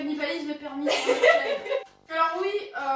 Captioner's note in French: rire